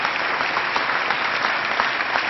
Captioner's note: applause